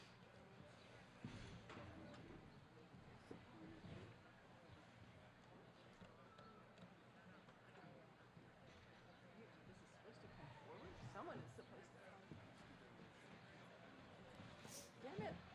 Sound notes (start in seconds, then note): none